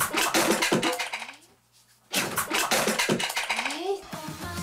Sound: objects clattering

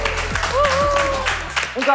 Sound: cheering

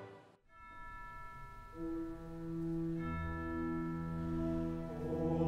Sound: gentle music; bell chiming

